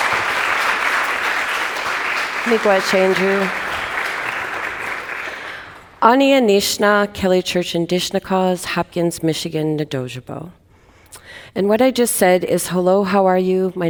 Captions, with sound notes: - (speaking in native language) And what I just said is, "Hello, how are you?